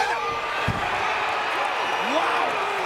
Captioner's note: audience cheering